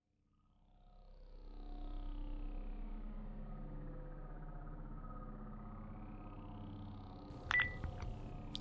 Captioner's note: spaceship ambience